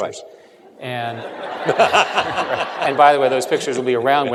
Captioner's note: laughter